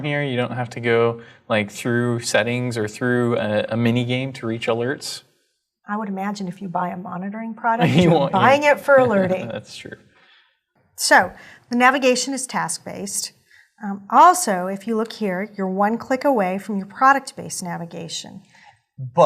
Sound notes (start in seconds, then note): 7.8 laugh